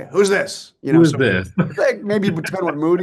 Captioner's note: chuckles